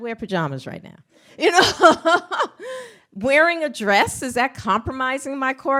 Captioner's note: laughs